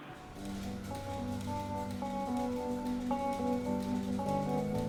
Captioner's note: milkers clicking